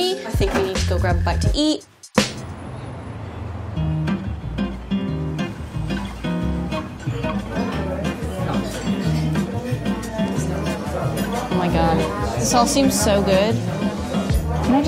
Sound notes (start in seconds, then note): 3.0 acoustic music; 7.5 quiet chattering